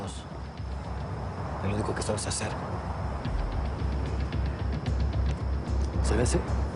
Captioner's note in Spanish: ruido de auto que se acerca